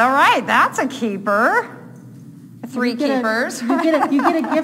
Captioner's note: laughing